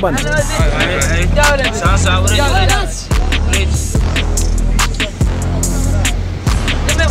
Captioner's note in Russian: говорят на сомалийском